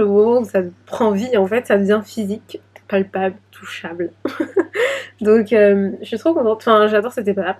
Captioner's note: laughs